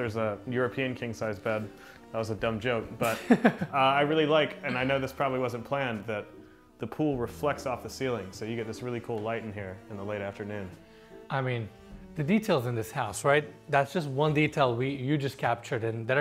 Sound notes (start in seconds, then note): 3.0 chuckles